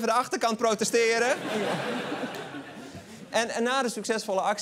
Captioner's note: laughter